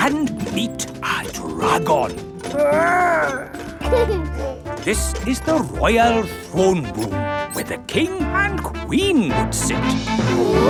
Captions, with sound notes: And meet a dragon! Grrr! (GIGGLES) This is the royal throne room, where the king and queen would sit!